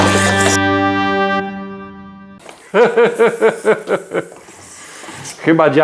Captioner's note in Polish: śmiech